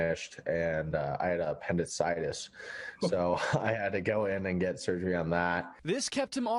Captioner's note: laughs